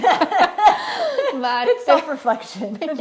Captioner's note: laughing